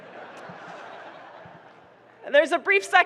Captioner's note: people laughing